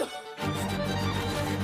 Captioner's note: cough